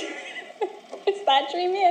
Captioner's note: Helen laughs